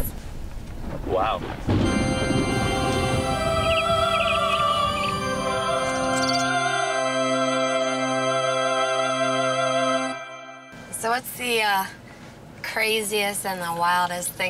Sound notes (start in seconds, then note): 1.4 angelic singing; 4.3 bird tweeting; 6.6 organ music